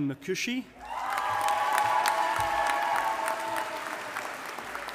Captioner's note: audience applauding